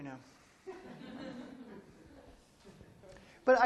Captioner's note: laughter